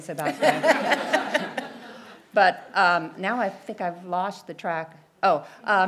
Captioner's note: laugh